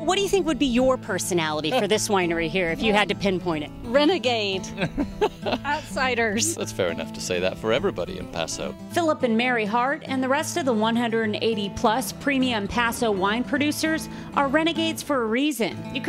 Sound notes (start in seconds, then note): 4.7 laughing